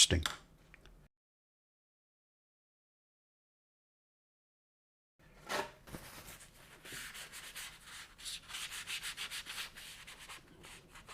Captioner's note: silence